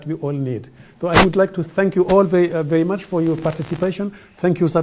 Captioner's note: audio disturbance; audio disturbance